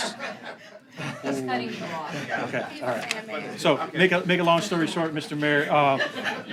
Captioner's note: laughter